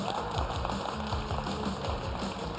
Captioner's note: cheers and applause